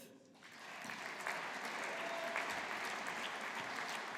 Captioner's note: audience applauding